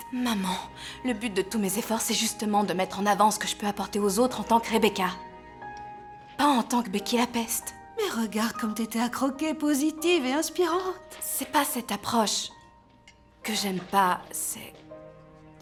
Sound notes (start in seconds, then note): none